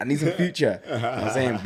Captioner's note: laughs